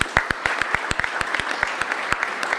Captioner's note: applause